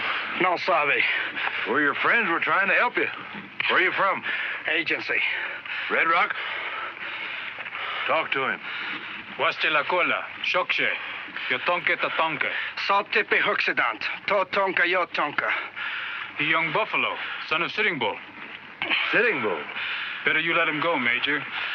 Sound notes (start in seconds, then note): 9.1 Indian speaking in foreign language; 12.6 Melsavei speaking in foreign language